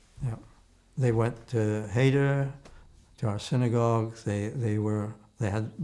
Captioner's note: hebrew